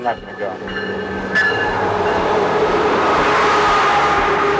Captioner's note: train roars